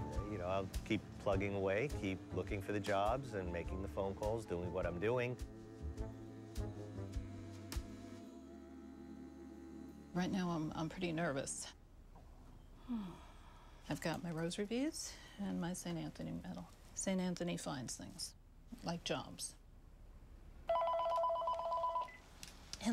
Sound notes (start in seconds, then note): 12.7 sighs; 20.6 telephone rings